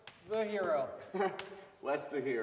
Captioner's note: Wes laughs